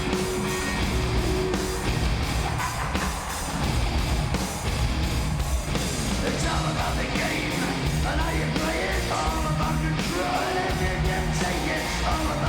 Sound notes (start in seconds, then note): 2.8 singer laughs